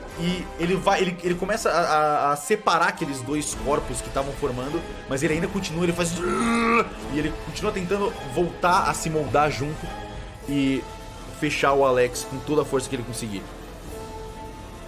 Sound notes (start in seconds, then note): 6.1 uuuuh